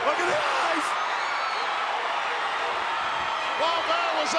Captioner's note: crowd cheering